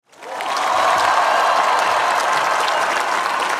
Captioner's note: applause and cheering